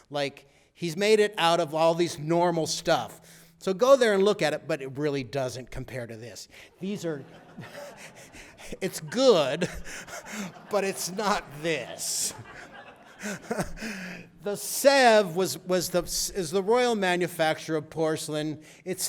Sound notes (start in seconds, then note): 6.9 laughter